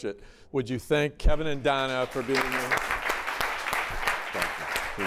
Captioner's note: applause